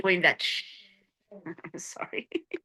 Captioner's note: laughing